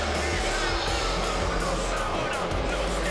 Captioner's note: crowd boos